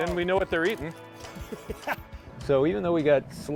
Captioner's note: laughs